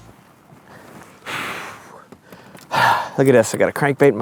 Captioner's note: Mike exhales sharply